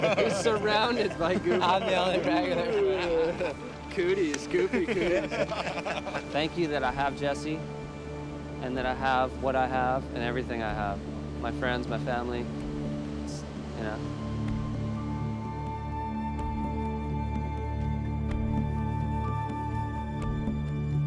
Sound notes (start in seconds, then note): 4.7 laughing continues